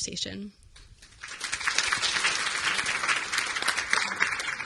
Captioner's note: audience applauding